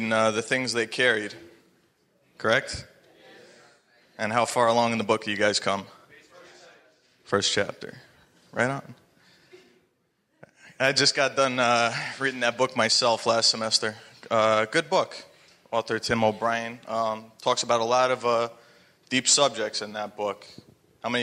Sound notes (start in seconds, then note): 6.4 audience members talking at once